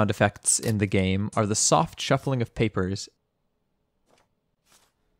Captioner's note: shuffling of papers